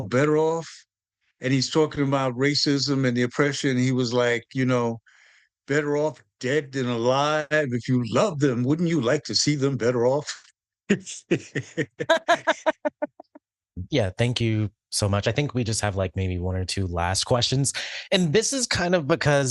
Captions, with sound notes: "Better Off?" And he's talking about racism and the oppression. He was like, you know, better off dead than alive. If you love them, wouldn't you like to see them better off? (Laughs) yeah, thank you so much. I think we just have like maybe one or two last questions. And this is kind of because,